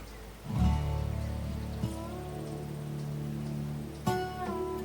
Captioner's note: birds chirping; gentle music